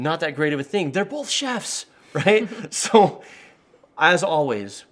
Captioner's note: laughing